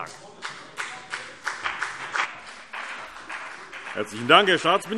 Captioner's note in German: Beifall BÜNDNIS 90/DIE GRÜNEN